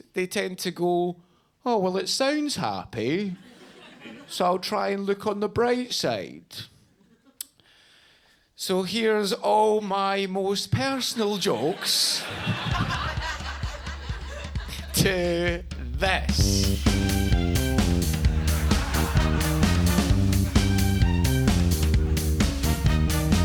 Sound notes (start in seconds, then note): 11.4 audience laughing; 16.7 upbeat music